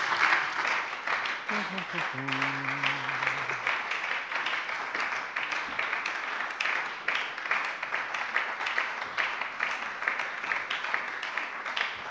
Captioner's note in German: Lang anhaltender Beifall bei der SPD - Beifall bei der LINKEN